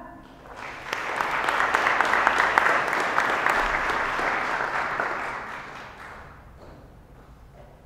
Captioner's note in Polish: oklaski